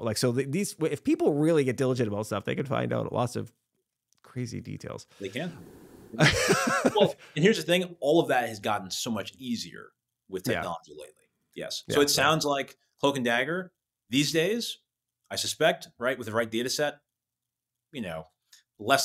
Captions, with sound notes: So if people really get diligent about stuff, they could find out lots of crazy details. They can. (both laughing) And here's the thing, all of that has gotten so much easier with technology lately. Yes. So it sounds like "Hoke and Dagger" these days, I suspect, right, with the right data set, you know, less